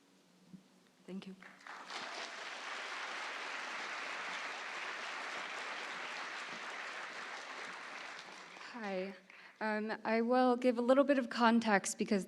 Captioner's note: applause